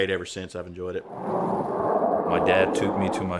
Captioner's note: jet aircraft engines